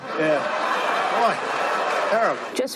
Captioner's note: laughing